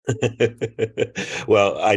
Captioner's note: laughs